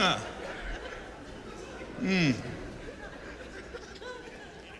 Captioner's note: chuckles